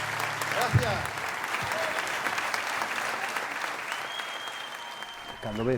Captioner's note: applause